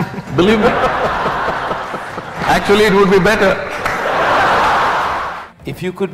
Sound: laughter

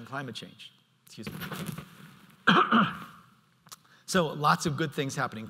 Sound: coughs

